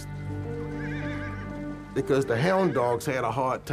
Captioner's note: horse whinnies